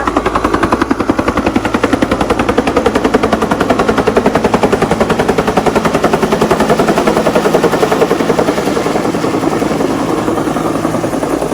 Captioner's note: helicopter whirring